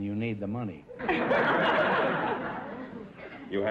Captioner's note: audience laughter